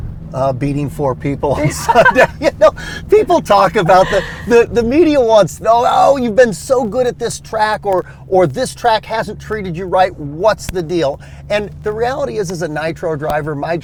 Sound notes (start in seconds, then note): 1.5 laughs